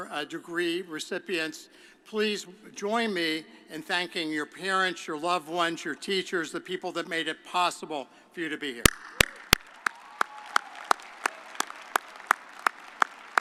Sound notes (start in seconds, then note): 9.2 audience applauding